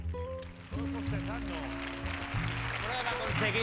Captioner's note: applause